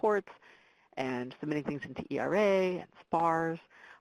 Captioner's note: voice muffled